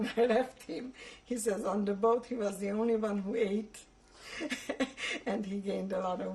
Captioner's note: laughs